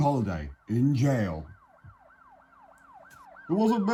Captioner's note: police sirens